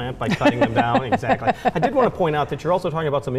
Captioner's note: laughs